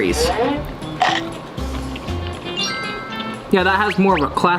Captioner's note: munching